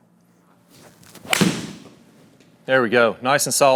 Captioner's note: golf club thwacks